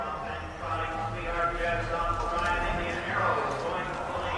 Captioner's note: announcer chattering